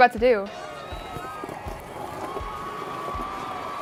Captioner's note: crowd cheering